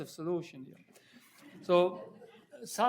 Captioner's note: audience chuckling